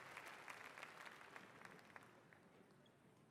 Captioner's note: applause